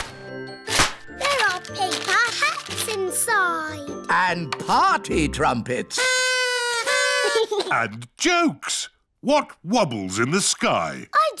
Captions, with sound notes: There are paper hats inside. And party trumpets! (BLOWING) And jokes. What wobbles in the sky?